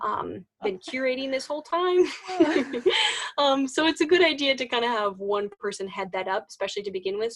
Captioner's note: starts laughing